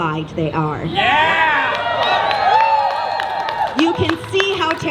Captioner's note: cheering